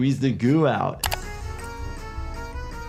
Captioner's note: playful music; click